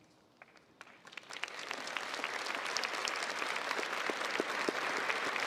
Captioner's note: crowd applauds